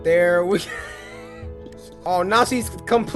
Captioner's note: wheeze